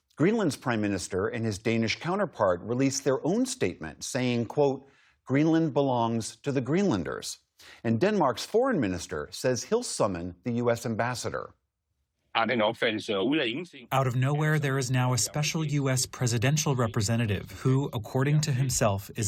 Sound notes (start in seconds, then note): 14.3 through translator